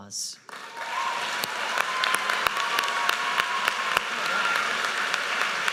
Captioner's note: audience cheers and applauds